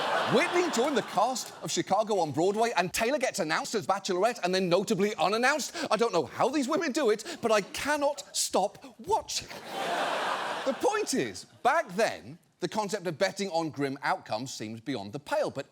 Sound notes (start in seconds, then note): 0.0 audience laughs; 9.4 audience laughs